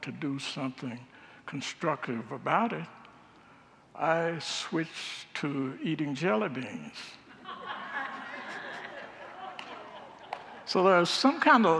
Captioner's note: congregants laugh